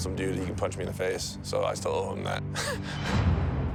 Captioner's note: chuckles